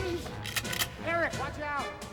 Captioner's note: cocks gun